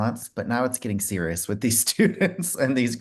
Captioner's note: laughs